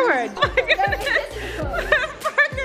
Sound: laughing

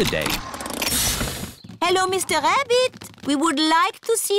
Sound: engine stops

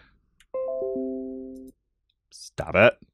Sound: notification sound

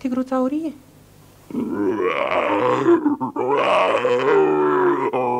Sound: rage

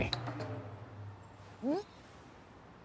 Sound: retch

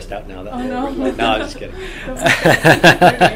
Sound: all laugh

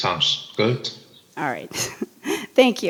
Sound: chuckles

